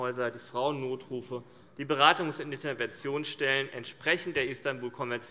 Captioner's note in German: none